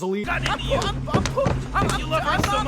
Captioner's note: slapping and stumbling noises